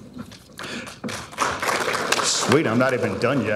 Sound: audience applauding

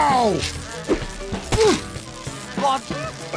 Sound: hits; Louis screams after for pills

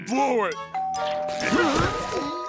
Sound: dinging

